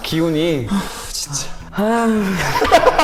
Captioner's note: sighs